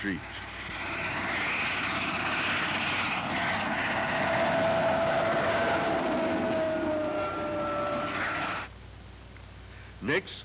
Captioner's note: train speeding along tracks